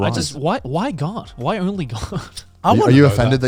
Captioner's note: chuckling